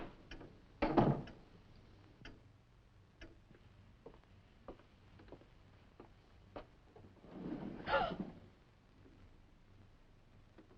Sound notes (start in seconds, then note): 1.0 door thudding; 7.9 Nan gasping